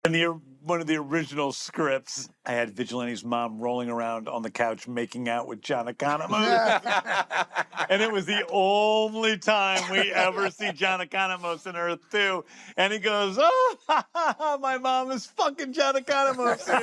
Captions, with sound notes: In one of the original scripts, I had Vigilante's mom rolling around on the couch, making out with John Economos. (ALL LAUGH) And it was the only time we ever see John Economos on Earth two. And he goes, "Oh... (LAUGHS) ...my mom is fucking John Economos, dude."